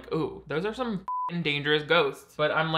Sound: beep

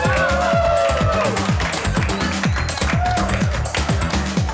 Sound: audience cheering

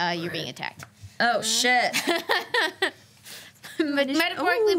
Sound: laughs

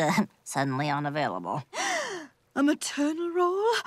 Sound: gasping

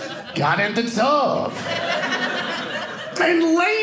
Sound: audience laughing

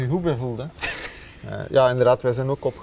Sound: chuckles

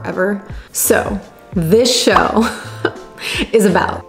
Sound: giggling

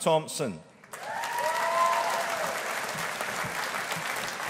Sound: audience applauding

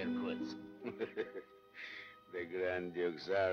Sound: laughing

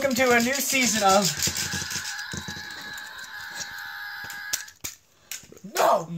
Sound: Mater screaming

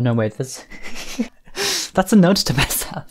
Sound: laughing

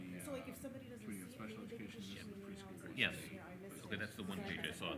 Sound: members chattering

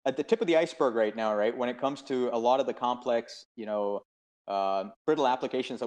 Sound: murmurs

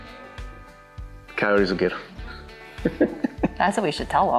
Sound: laughs

